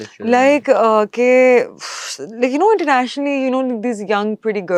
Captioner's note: nasal voice